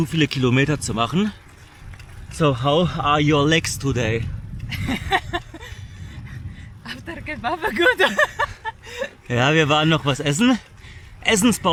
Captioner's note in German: gelächter